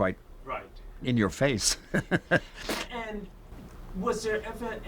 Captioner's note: laughs